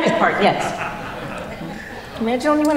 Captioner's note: laughter